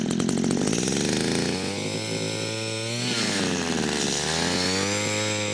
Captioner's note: drilling sound